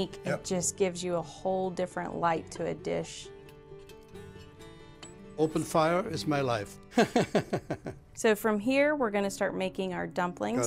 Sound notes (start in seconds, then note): 6.9 laughs